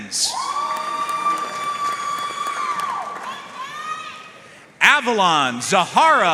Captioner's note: audience cheering and applauding